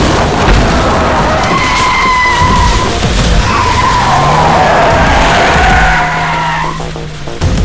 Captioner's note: tires squealing